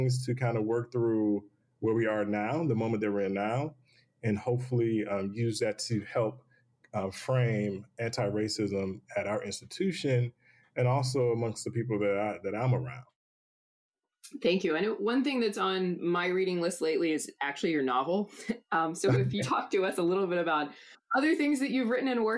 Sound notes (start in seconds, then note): 19.1 chuckles